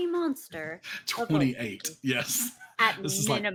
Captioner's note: laughs